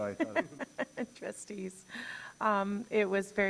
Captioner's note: laughs